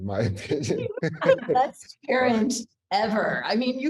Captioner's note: laughs